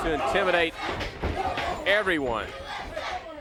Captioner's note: crowd chatter